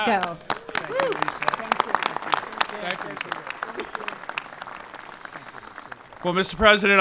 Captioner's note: applause